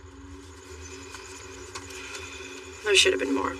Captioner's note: sighs